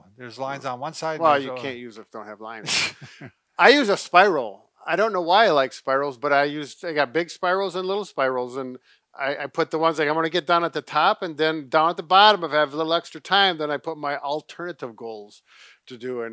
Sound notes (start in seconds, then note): 2.6 laughs